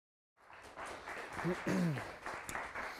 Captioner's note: audience applause